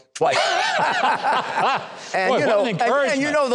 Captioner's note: audience and host laughs